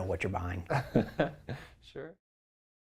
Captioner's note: laugh